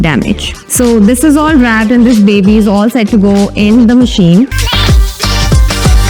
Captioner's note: washing